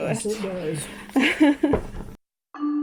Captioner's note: laughs